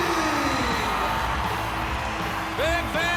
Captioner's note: crowd cheering; upbeat music